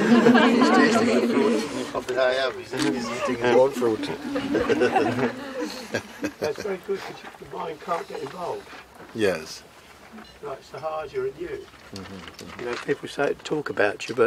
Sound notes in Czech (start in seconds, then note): 0.0 smích; 5.7 smích